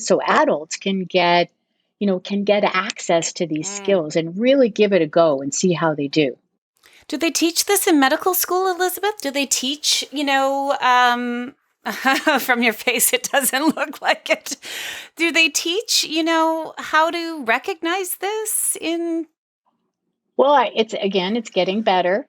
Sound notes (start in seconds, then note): 11.9 | laughs